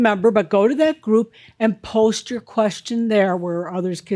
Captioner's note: none